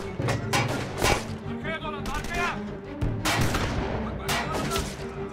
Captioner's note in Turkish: Silah sesleri